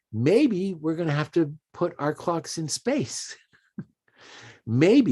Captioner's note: chuckles